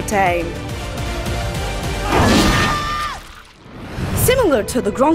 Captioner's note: ominous music; person screaming